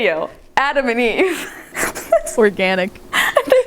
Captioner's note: laughs